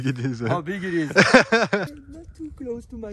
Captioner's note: laugh